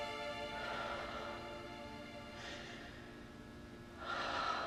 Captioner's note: Maggie exhaling